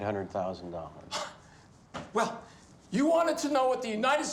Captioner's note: scoffs